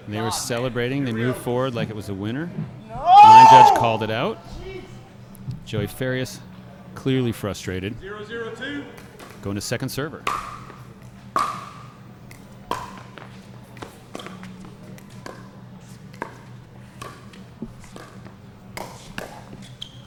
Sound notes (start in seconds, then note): 11.4 ball being hit; 11.8 shoes squeaking